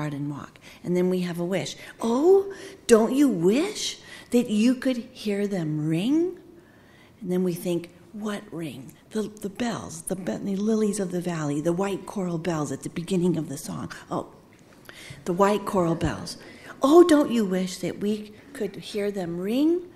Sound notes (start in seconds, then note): none